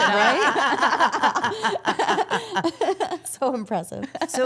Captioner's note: all laughing